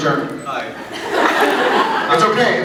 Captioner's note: laughs